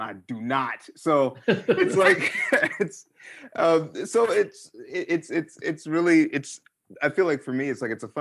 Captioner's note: laughter